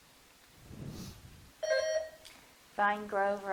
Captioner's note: bell dinging